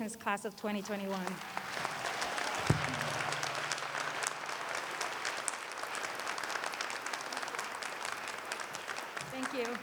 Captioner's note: applause